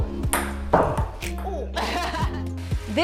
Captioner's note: ball hitting paddles; women laughing